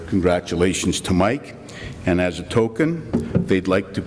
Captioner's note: none